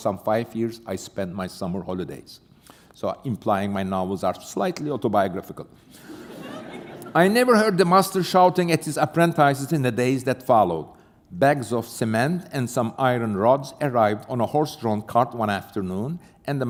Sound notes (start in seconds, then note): 5.9 laughter